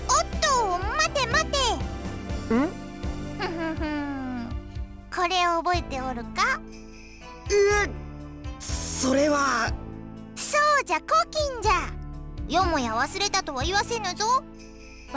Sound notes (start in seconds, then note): 3.4 chuckle